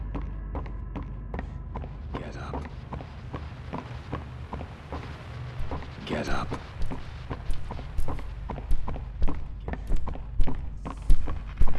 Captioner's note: footsteps